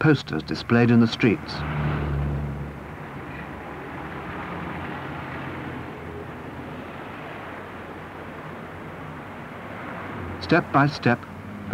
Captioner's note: engine rumble and traffic sounds